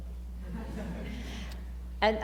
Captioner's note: laughter